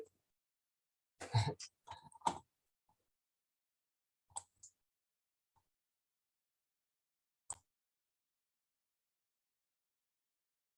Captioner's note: mouse clicking